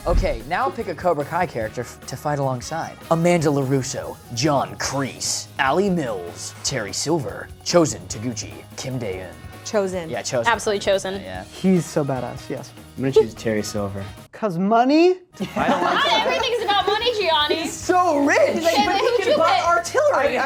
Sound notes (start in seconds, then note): 15.4 all chattering and laughing